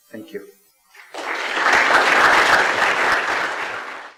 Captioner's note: audience applauds